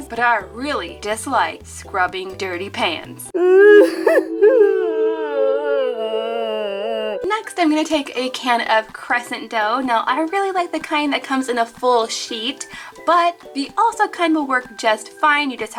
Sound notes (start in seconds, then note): 3.3 adult cries